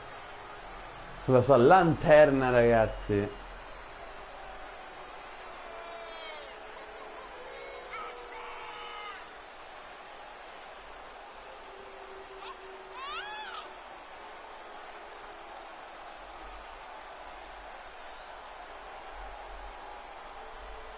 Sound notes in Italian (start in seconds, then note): 0.3 Applauso; 8.3 Applauso; 20.7 Applauso